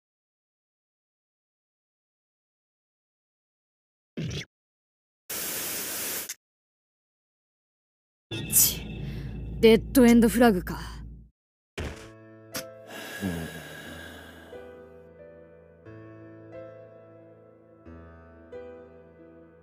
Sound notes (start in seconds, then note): 12.8 deep sigh